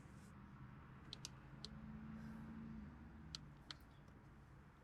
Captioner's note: keypad tapping